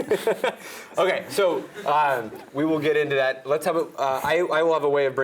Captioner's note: laugh